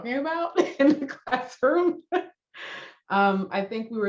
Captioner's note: laughs